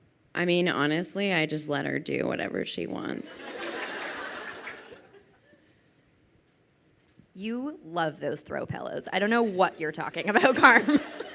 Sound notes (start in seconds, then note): 3.2 crowd laughing